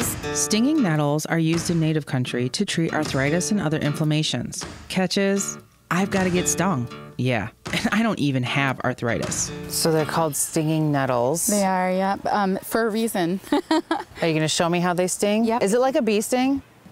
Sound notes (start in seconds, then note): 13.4 softly laughs